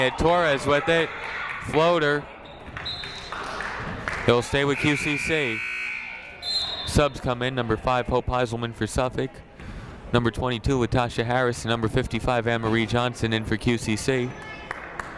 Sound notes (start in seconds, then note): 3.1 whistle blows; 4.8 buzzer blares; 6.3 whistle blows; 14.6 clapping